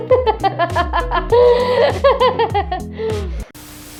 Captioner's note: laughter